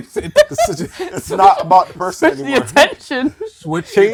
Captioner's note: laughter